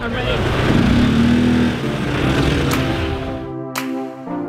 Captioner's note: scooters revving